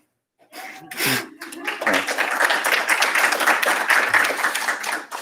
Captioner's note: applause